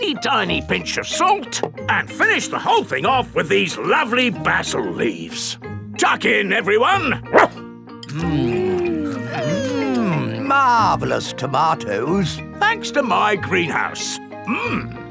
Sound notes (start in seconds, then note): 7.3 barks